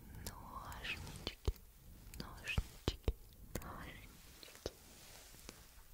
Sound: scissors

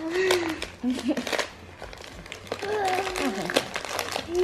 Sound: paper rustling

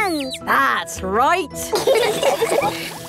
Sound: all laughing

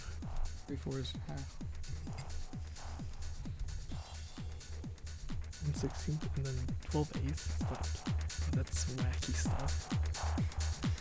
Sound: whispering

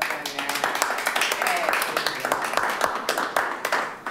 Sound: attendees applaud

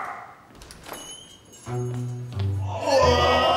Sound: door jingle

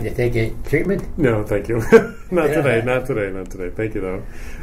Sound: chuckles

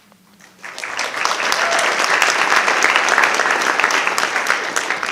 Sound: audience applauding

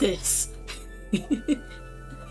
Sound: laughs

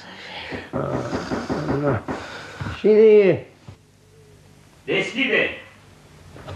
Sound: knocks on the door

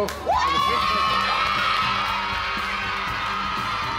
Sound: cheering

